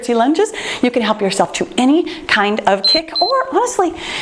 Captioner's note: timer beeping